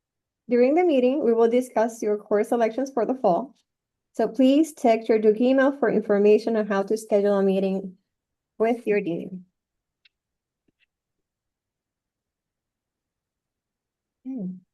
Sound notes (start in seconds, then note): 10.0 click; 11.6 silence